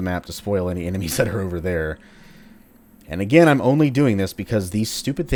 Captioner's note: chuckles